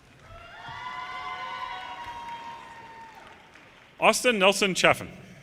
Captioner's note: audience cheers and applause